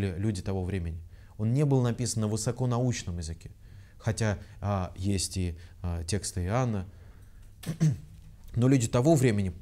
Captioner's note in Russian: откашливается